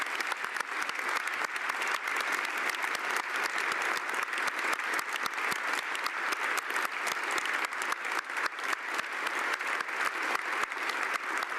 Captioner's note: applause